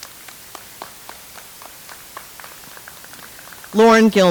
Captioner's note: audience applauds